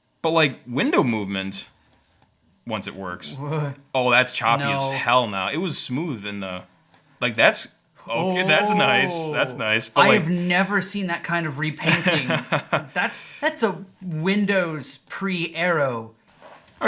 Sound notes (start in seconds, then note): 12.0 laughing